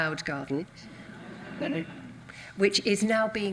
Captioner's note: audience laughs